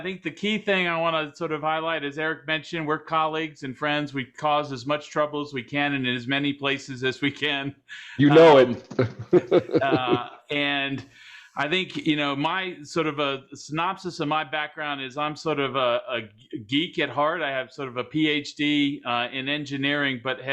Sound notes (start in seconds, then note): 8.0 laughs